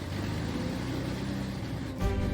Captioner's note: propellers rotating